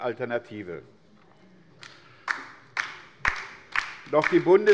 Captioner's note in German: Beifall bei der LINKEN